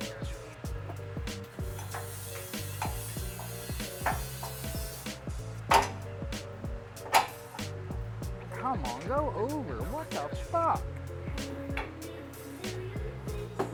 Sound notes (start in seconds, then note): 0.8 upbeat music; 7.0 metal clanking